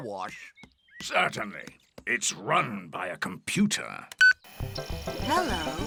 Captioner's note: beeps